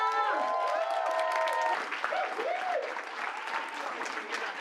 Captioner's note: audience applause